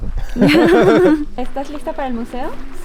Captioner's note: laughs